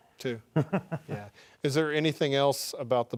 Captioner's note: laughing